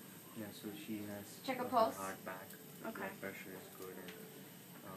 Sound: voiceover

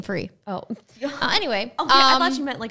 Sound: laughing

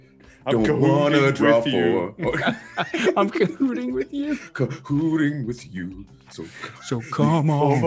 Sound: laugh

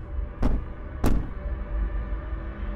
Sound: knock, knock

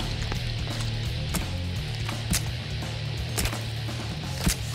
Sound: rock music playing; squishing

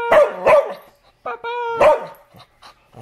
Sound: barks; barking

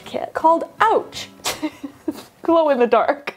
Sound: laughs

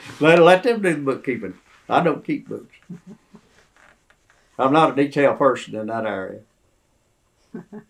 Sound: laughs

